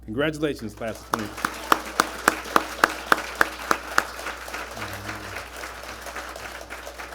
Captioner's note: applause